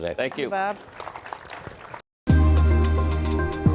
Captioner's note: audience applauding; bright music